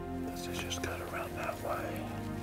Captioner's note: whispering